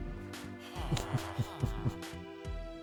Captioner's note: chuckles